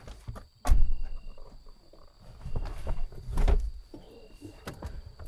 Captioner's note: insects chirping